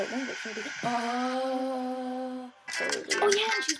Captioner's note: mimics HBO noise